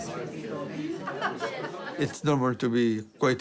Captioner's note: laughter